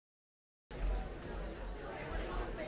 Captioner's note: people murmuring